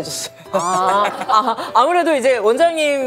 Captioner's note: shy laugh